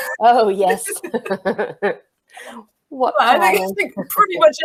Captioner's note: laugh